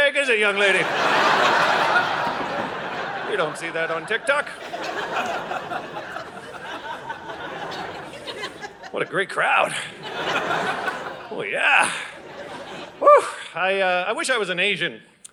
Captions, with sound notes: Is it young lady? (Audience laughing) You don't see that on TikTok? (Audience laughing) What a great crowd. (Audience laughing) Oh, yeah. (Audience laughing) I wish I was an Asian,